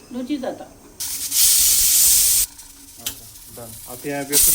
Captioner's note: cooker whistling